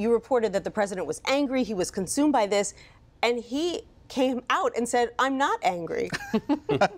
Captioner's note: laughter